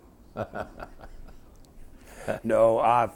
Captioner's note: laughter